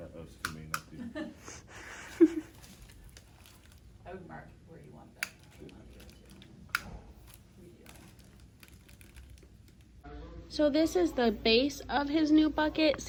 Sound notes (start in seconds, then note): 0.9 laughs